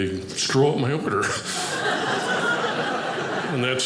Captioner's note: audience laughing